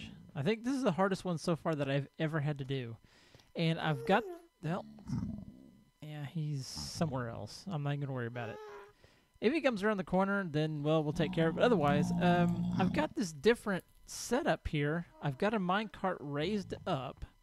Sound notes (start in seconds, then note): 4.2 ghast squalls; 4.7 grunting continues; 11.1 ghast squalls